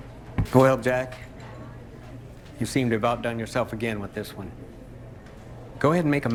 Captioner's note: none